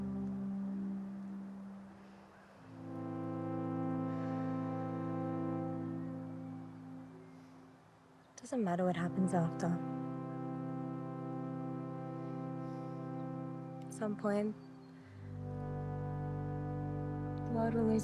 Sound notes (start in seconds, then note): 0.2 gentle music; 4.2 birds chirping; 11.3 gentle music